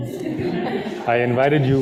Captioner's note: audience laughing